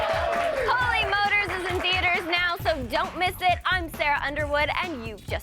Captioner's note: applause